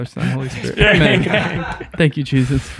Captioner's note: friars laughing